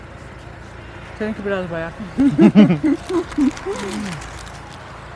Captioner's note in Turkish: kahkaha